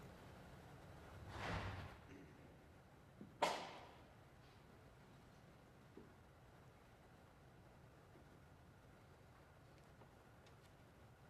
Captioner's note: moment of silence